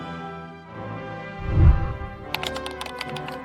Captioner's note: whooshing sound; keyboard clicking